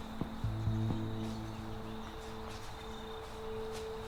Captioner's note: birds chirping